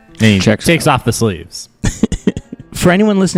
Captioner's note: laughs